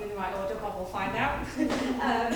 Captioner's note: laughs; audience laughing